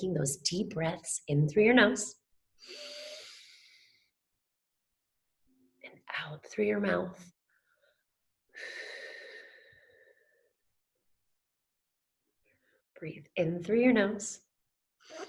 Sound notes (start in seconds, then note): 2.6 inhales; 8.6 exhales